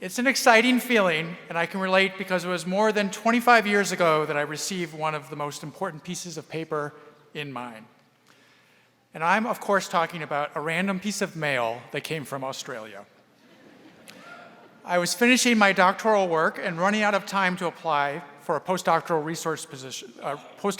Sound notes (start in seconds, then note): 13.4 audience laughing